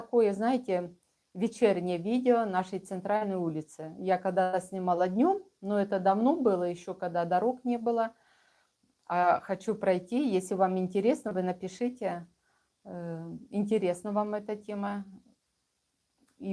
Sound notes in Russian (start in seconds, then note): none